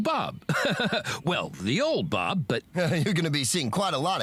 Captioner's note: chuckles